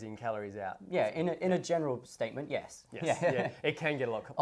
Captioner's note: laughs